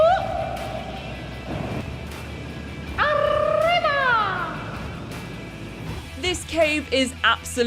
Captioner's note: wooping noises